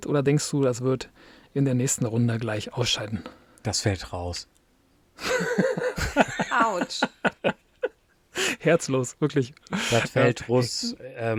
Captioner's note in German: gelächter